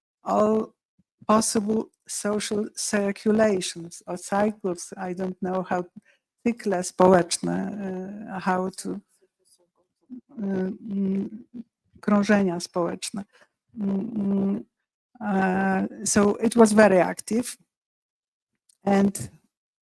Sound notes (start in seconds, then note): 7.3 speaking polish; 10.5 speaking polish